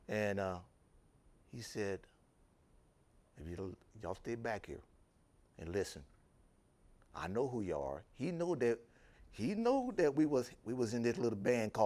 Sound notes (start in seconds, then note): none